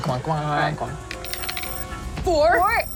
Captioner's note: computer beeps; dice rolling